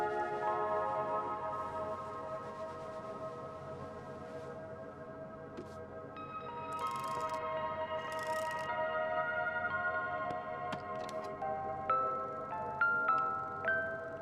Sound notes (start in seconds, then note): 8.0 ratchet rattling; 11.5 gentle music